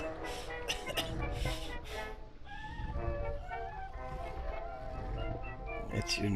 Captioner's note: cheerful 1920's music; Clint coughing